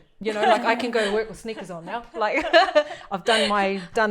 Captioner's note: laughs